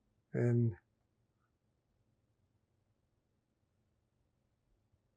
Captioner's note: pauses 6 seconds